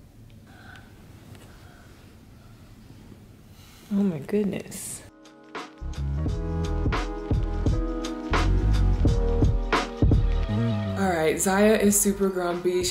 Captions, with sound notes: - (yawns) Oh my goodness. (upbeat music) All right, Zaya is super grumpy,